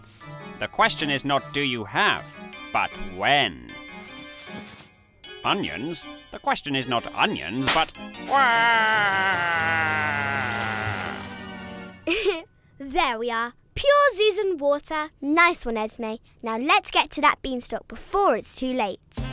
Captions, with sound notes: - The question is not do you have but when. Onions? The question is not onions but (sobs). - (giggles) There we are. Pure Zuzaan water. - Nice one, Esme. Now let's get to that beanstalk before it's too late.